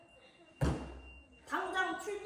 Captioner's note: bang